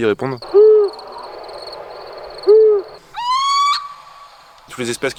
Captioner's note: raptor noises